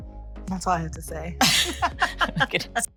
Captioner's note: both laughing